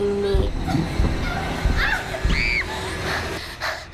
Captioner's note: screams